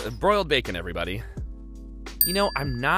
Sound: dings

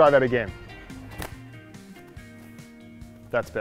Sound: clicks fingers

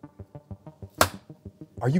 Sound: louder thud

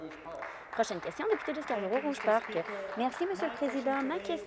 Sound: applause

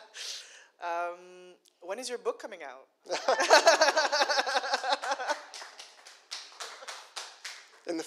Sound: laughter - as I've been talking about it for a long time

